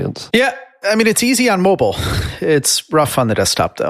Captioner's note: sighs